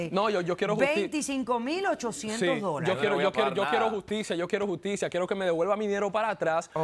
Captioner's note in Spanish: Hablan al unísono